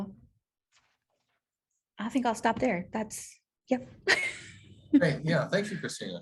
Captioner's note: laughter